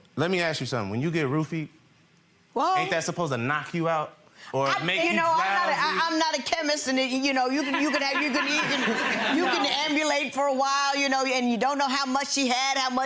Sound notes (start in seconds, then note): 7.2 stammers; 7.5 audience laughs